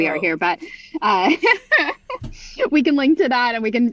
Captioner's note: laughs